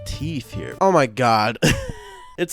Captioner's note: chuckles